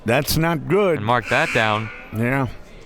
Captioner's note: buzzer ringing